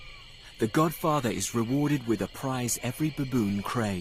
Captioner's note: insects buzzing